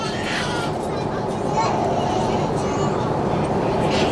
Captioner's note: baby crying